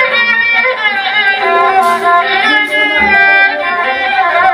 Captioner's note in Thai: ปรบมือ